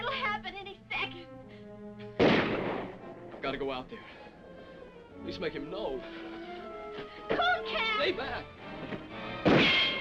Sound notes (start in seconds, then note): 2.1 guns firing; 6.4 dramatic music; 8.9 dramatic music; 9.4 guns firing